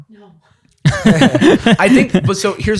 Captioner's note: laughter